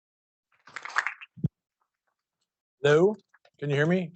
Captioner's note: students applauding